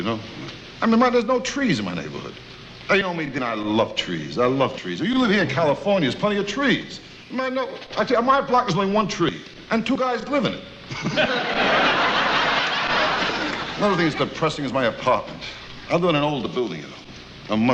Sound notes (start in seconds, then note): 10.9 audience laughs